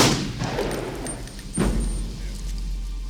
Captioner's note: gunshot